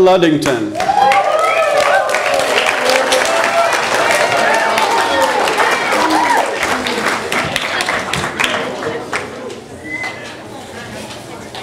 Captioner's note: audience applause